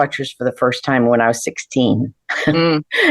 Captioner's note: laughs